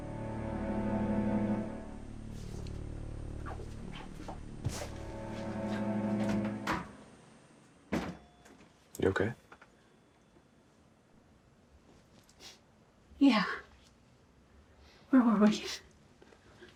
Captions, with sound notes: (soft dramatic music) (door opening and closing) - You okay? - Yeah. Where were we?